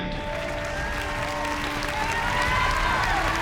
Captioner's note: applause